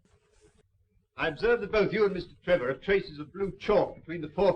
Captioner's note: none